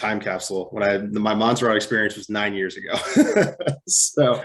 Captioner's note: laughs